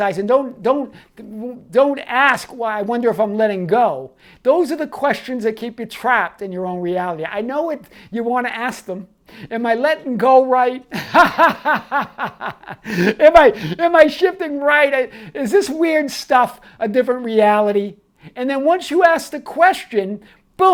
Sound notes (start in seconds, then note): 10.9 laughing